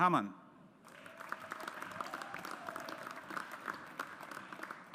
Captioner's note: audience applauds